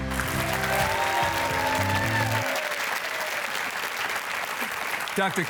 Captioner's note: audience cheering